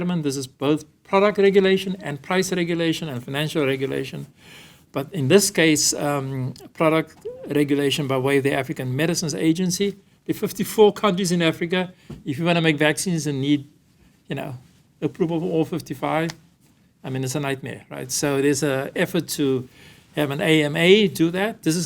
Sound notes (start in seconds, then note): none